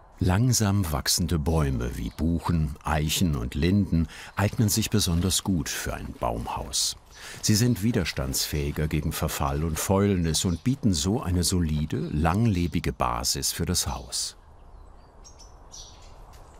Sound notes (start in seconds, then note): 14.4 quiet chirping of birds